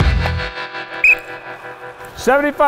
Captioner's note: whistle blows